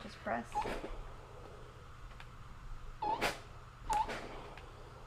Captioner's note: press whining